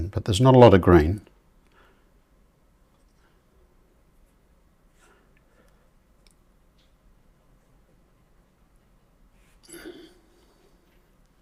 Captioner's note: silence